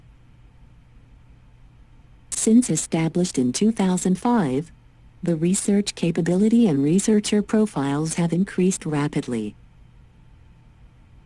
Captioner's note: computer text-to-speech